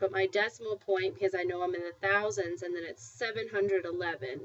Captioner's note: spanish